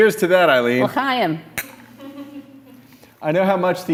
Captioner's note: non-english